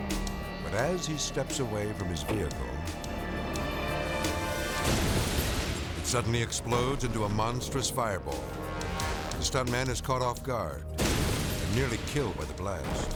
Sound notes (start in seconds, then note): 4.6 explosion blasting